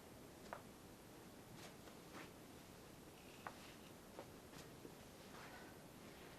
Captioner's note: quiet steps